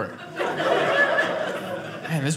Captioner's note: audience laughing